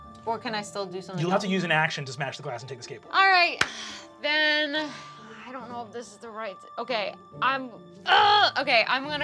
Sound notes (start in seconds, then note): 7.4 groans